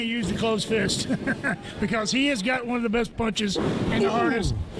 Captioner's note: chuckles